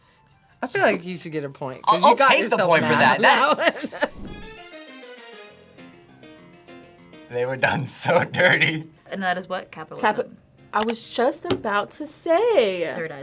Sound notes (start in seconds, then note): 3.5 laughs; 4.5 upbeat music